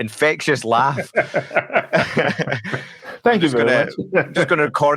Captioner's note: speakers laughing